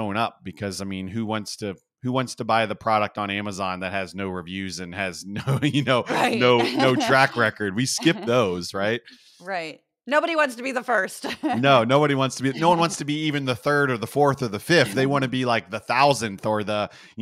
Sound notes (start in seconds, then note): 5.2 laugh